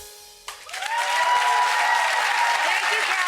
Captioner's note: audience cheers